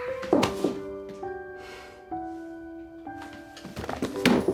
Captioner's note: dropping hands, sighs heavily